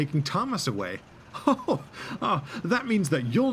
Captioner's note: chuckles